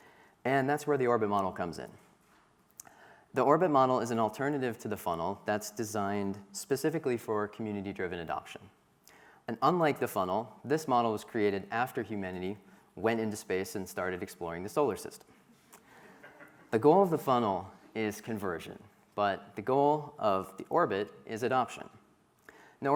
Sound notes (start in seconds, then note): 16.0 crowd laughing